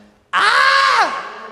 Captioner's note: screams